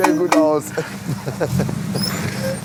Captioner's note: short honk